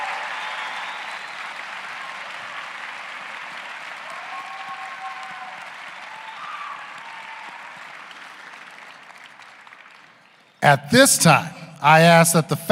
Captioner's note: cheers and applause